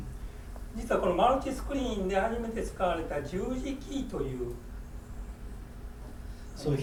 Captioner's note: speaking in foreign language